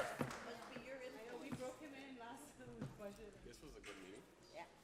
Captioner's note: group chattering